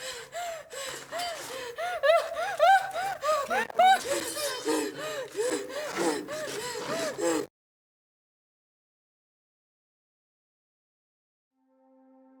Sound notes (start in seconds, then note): 2.0 victim whimpers; 5.1 rapid gasps